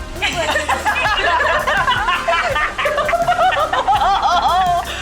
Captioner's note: laughing continues